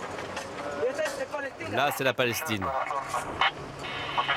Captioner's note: French spoken audio